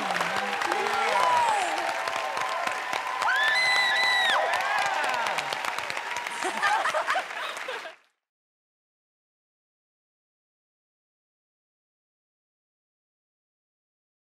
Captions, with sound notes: Yeah. Whoa! [ Screams ] [ Laughter ] 00:01:28.130,00:00:00.000 Don't you love when it just makes sense like that?